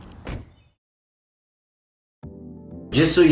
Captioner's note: car door slams